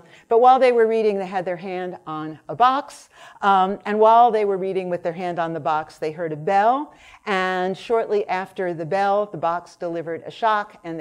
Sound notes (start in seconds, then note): none